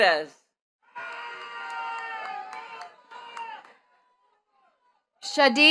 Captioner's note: attendees cheering and clapping